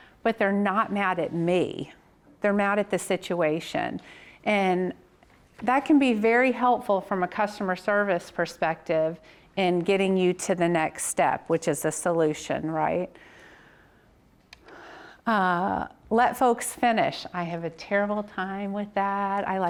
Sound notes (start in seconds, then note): none